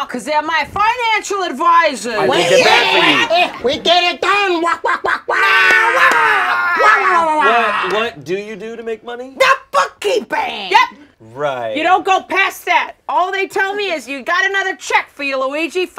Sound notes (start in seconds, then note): 2.7 Wario and Waluigi shouting